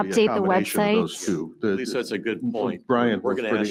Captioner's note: members chattering